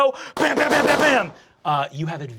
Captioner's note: gunshots firing